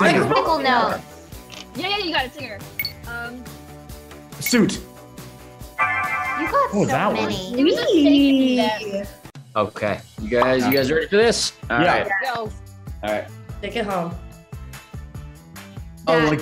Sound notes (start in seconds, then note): 0.0 group mumbling in unison; 4.4 upbeat music; 6.2 timer chiming; 16.0 upbeat music